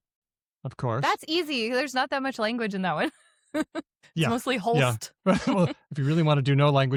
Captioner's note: laughs